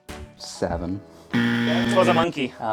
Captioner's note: buzzer